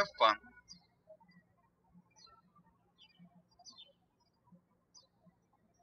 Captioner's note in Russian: птички щебечут